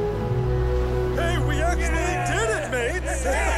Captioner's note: they cheer